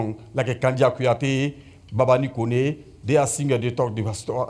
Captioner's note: speakes native language